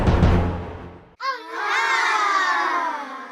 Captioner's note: All the kids gasp at Janine